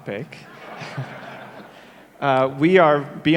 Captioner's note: audience laughs